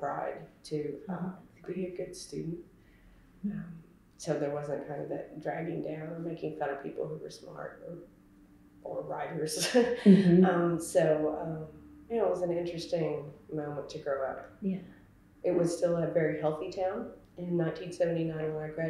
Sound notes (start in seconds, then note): 9.8 laughs